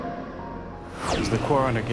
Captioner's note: whoosh; swipe